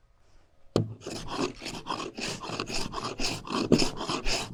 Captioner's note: planer chafing